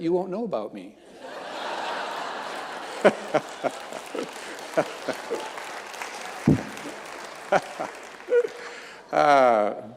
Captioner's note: audience laughing and clapping; chuckles